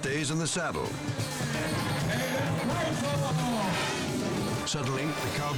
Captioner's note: announcer speaking in foreign language